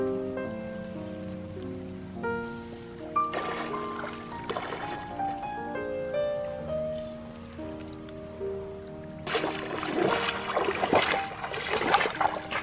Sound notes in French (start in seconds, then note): 1.2 bloup, bloup, bloup; 3.2 splash, bloup